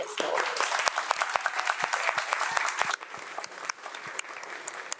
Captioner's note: audience applauds